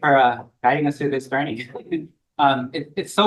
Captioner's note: laughs